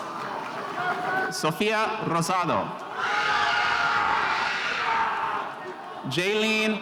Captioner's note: spectators screaming